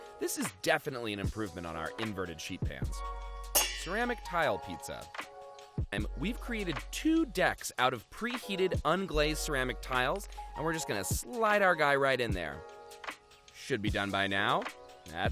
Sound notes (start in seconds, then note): 3.5 metal clangs